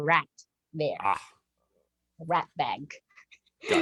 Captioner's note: chuckles